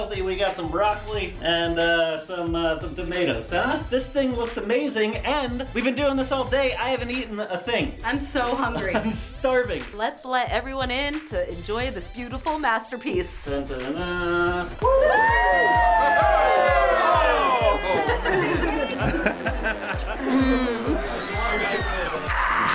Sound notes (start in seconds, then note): 14.7 cheering